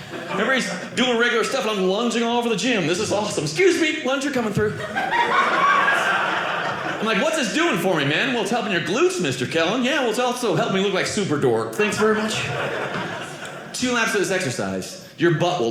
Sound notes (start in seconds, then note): 4.6 audience laughing